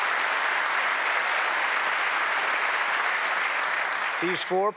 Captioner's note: applause